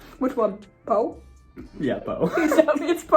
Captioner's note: laughs